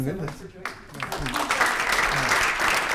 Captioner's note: applause